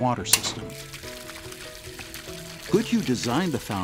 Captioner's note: sounds of water running